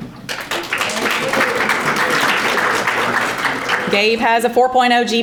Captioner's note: audience applauding